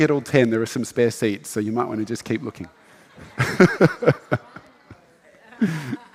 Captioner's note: laughs